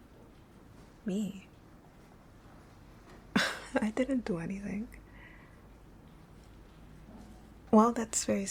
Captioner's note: laughing